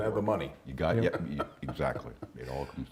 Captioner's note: laughs